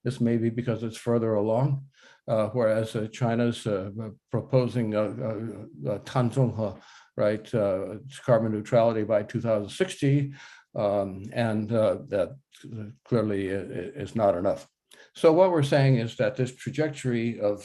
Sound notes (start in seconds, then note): 6.1 speaks Chinese